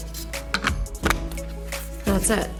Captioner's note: plastic clicks